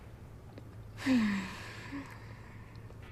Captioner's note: sighs